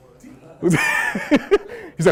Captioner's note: laughter